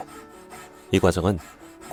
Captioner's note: sawing sound